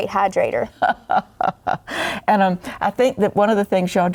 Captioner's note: laughs